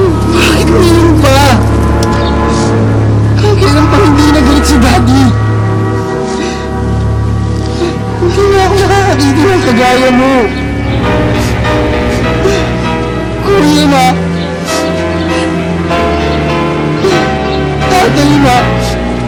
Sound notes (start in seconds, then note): 7.6 Benj cries; 11.0 theme music playing